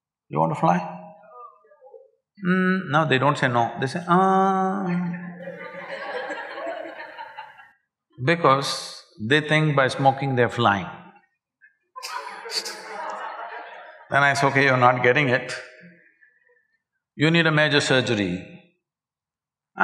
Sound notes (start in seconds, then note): 4.9 laughter; 12.6 laughter